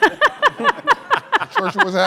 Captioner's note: laughter